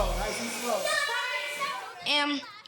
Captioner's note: children chattering